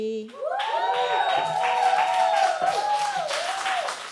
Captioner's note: audience cheering